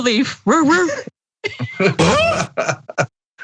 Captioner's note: laugh